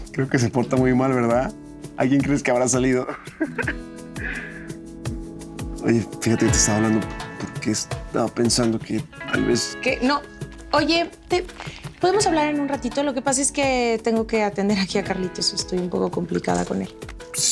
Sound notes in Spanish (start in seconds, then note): 3.0 lalo ríe